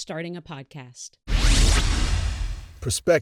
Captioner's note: electronic whoosh